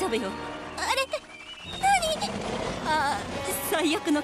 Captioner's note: Kaufo growls